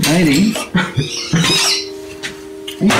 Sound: laughing

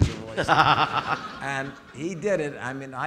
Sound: audience laughing

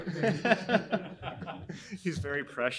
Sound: laughing

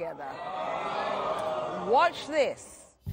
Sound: crowd gasps

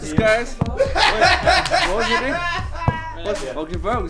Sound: laughter

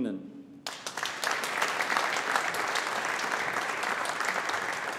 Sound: audience applauding

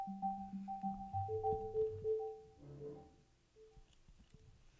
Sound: robot Sound

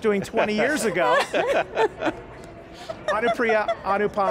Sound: panelists laughing

